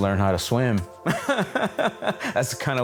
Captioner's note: laughs